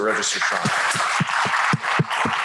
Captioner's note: applause